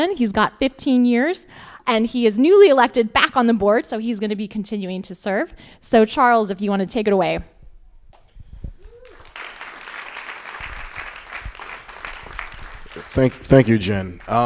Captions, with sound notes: He's got 15 years and he is newly elected back on the board. So he's gonna be continuing to serve. So Charles, if you wanna take it away. (crowd applauding) - Thank you, Jen.